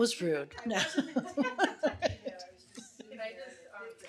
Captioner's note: laughing